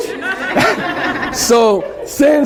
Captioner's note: laughter